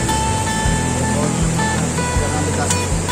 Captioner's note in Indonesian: suara sungai